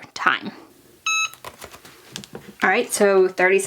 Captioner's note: press beeps